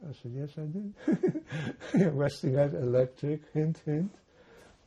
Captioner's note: laughing